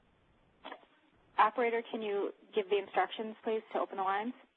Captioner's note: voiceover